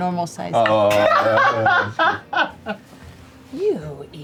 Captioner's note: laughs